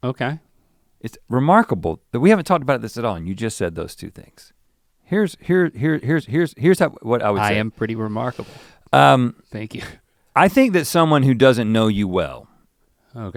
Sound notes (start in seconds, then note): none